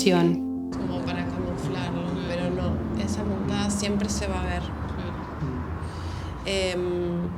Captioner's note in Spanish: voces de otras personas